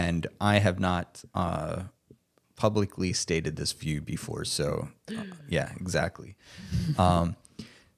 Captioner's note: gasps